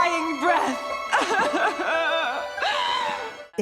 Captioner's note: sobbing